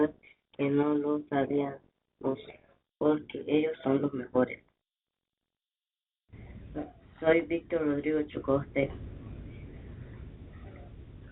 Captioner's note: speaking in spanish